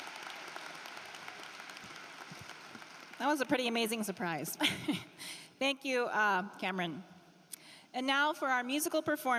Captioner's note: cheering and applause